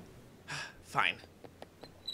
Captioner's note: sigh